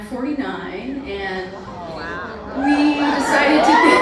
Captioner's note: audience reacts